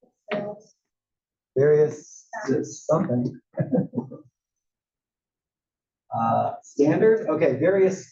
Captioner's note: laugh